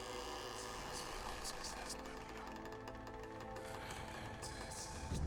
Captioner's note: whispering voices